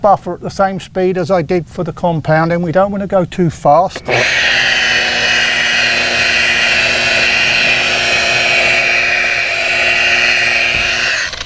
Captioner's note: machine whirring